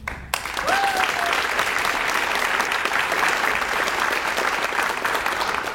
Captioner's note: audience cheers and applauds